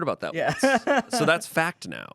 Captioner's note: laughs